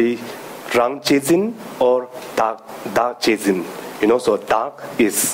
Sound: speaking in foreign language

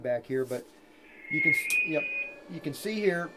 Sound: feedback screeching

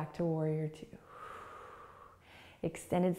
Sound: exhaling

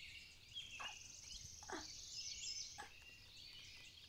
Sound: groans

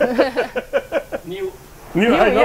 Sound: laughs

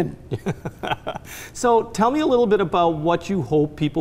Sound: laughs

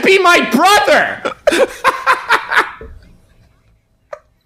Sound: laughing

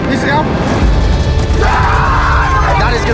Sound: team cheering

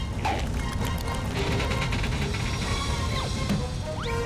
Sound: creaking

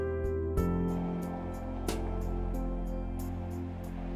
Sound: water running

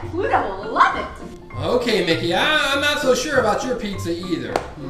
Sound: voiceover

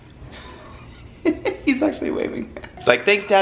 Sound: laughs

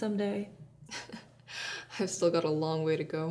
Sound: nervous laugh

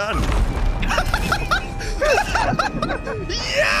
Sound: laughter

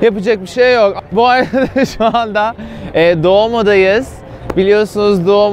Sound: laughs

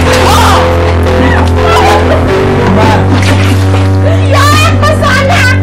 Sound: shrieks; chuckles

